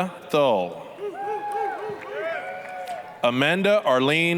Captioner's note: applause, cheering